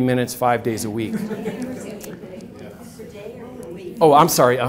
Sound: audience laughs

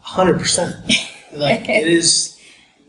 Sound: laughing

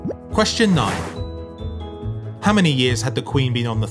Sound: number pops and whooshes

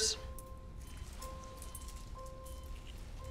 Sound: monitor beeping

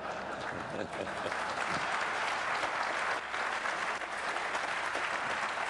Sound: applause

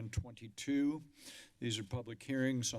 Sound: inhales

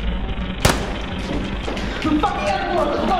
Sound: gun firing

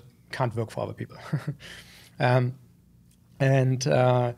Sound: chuckles

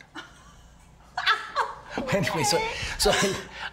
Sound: Cassidy laughing

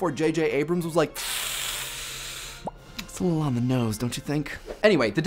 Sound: sucking through teeth

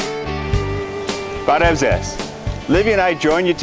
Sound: armenian

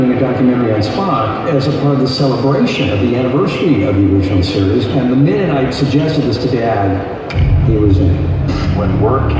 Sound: snaps finger

